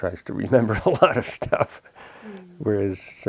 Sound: laughs

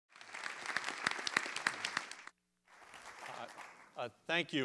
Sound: applause

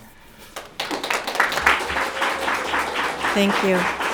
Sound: audience applauding

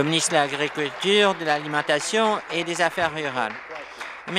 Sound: applause

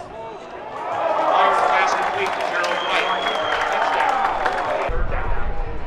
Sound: cheering

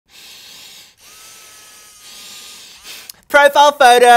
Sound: breathes deeply

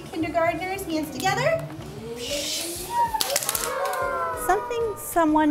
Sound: mimics fireworks; clap

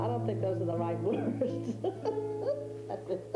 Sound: she laughs

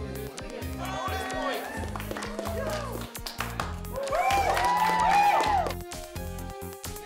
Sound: clapping/Cheering

